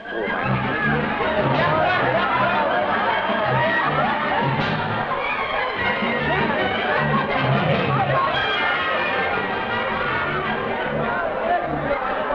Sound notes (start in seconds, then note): 0.3 man speaking foreign language; 1.7 partygoers laughing; 1.7 upbeat music